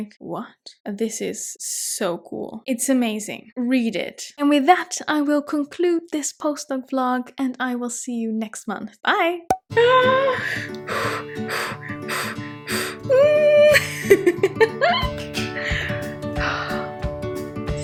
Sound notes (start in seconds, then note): 10.4 breathing deeply and loudly; 13.3 laughing; 13.7 bright music